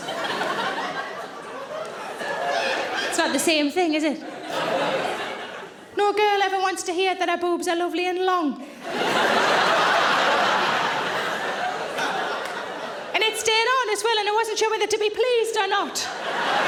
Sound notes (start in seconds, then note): 0.0 audience laughing; 8.8 audience laughing